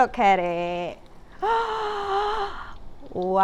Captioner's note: gasps